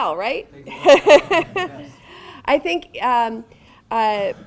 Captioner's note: laughing